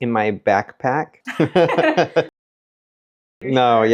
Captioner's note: both laughing